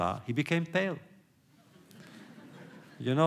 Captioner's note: laughter